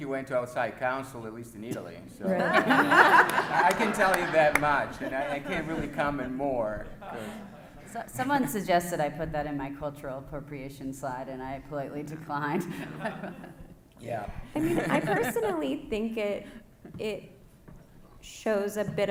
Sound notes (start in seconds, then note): 3.9 everyone laughs; 12.7 laughs